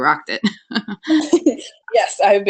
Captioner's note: laughs